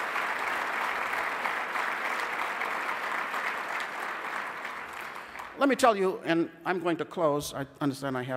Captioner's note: applause